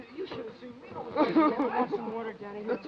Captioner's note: Danny sobbing